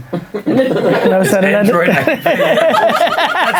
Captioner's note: laughing